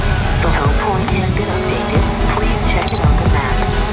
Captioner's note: drone humming; techno music